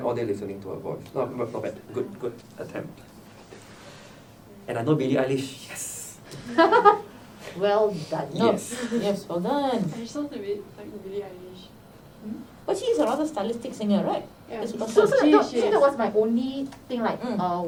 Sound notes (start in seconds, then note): 6.4 laughs